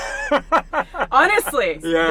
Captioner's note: laughs